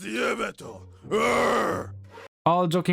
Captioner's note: grunting